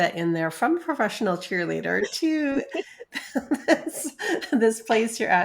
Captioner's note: laughs